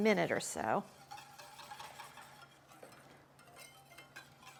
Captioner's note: whisk whirring